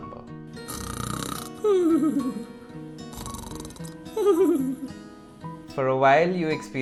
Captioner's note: snores